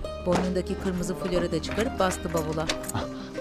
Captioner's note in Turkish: Kapı açılma sesi